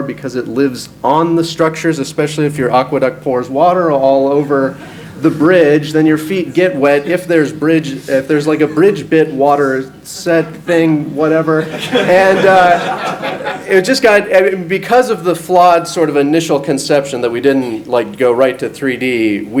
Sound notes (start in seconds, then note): 11.5 audience laughs